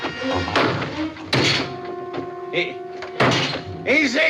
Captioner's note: BRAYlNG